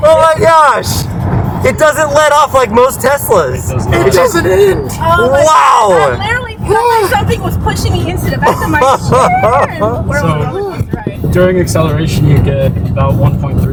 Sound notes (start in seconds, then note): 10.4 laughter